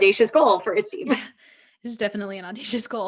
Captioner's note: laughs